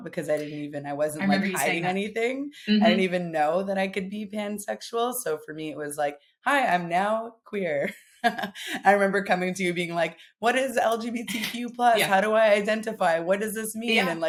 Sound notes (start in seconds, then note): 8.2 chuckles